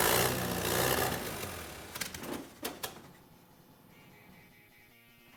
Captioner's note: engine sputters and dies